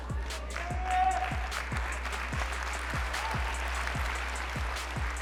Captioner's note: cheering